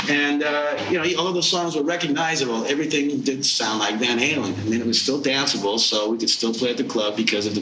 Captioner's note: none